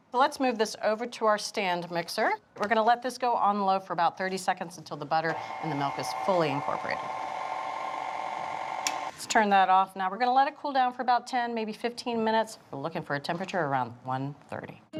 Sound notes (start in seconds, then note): 7.0 mixer whirring